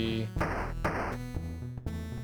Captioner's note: gun firing